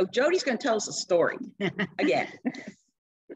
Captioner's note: laughter